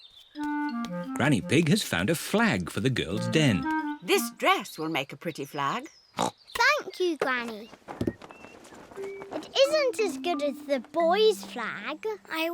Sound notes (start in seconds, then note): 7.0 snorts